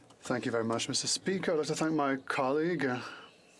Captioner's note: speaking French